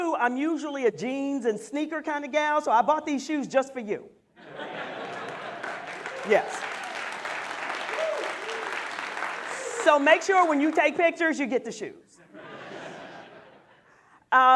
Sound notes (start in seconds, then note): 7.7 applause